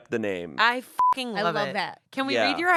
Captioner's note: beep